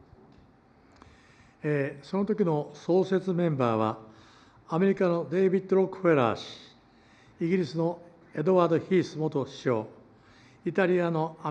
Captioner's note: foreign language